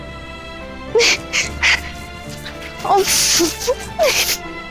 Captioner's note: laughter